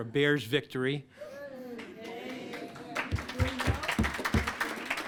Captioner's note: applause